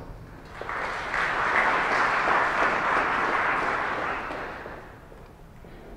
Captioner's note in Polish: oklaski